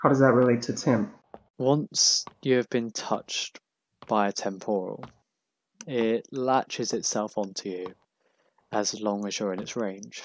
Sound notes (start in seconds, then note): none